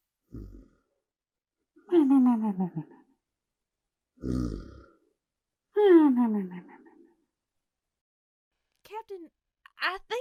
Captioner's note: snores cartoonishly